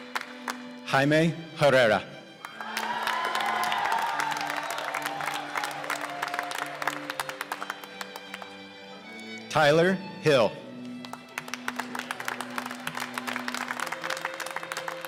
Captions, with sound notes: Jaime Herrera (cheers and applause) Tyler Hill (applause)